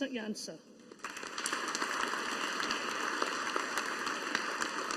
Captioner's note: audience applauding